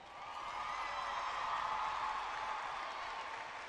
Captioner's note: cheering